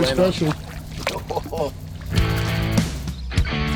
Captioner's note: laughing; upbeat rock music